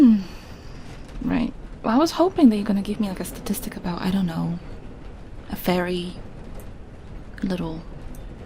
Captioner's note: sighs